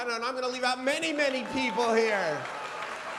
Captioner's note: applause